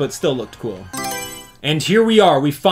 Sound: Mario Selection Sound

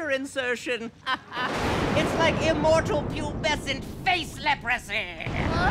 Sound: laughter

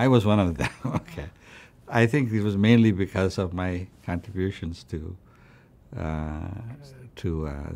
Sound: laughs

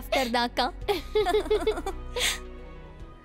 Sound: both chuckles

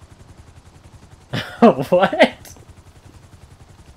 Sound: laughs

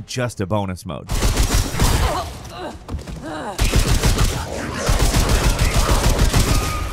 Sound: character grunting; gun firing

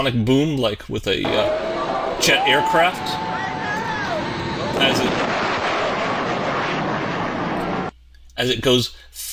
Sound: boom

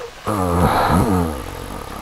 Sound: grunts

